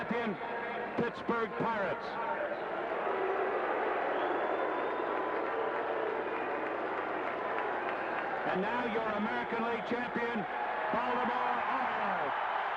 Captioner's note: cheering and applause